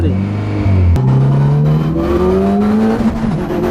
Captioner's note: engine roars